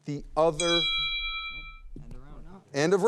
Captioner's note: alarm ringing